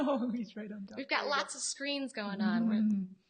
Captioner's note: laughs